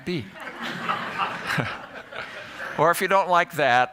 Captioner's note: laughter